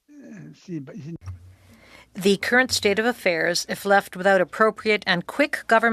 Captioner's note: speaking French